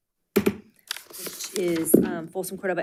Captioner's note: object banging